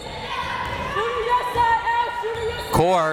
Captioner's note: crowd members shouting